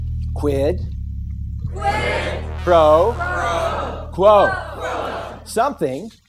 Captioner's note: audience chants along